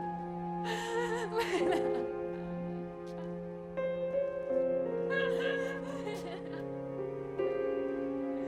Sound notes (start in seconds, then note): 0.6 sobbing